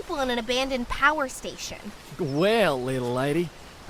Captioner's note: in a Texan accent